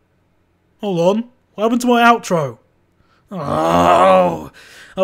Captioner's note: growls